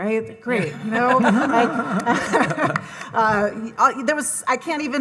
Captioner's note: audience laughing